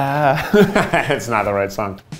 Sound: laugsh

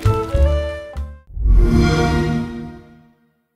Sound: xbox sound

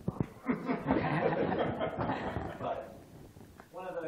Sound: laughter

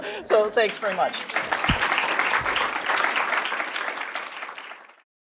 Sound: audience clapping

